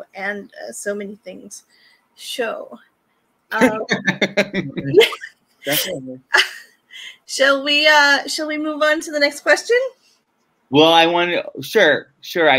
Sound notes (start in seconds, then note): 3.6 laughs